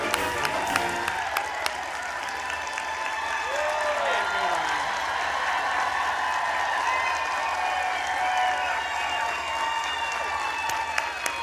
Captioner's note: applause